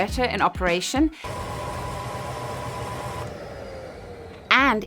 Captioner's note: vacuum cleaner whirring